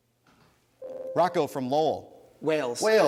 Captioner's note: ding